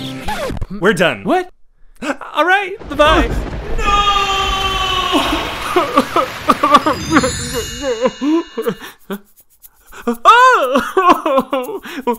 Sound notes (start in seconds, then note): 5.0 sobbing uncontrollably; 9.8 sobs; 9.9 sobbing continues